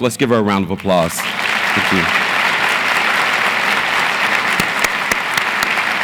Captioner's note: audience applauds